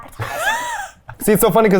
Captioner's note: laughs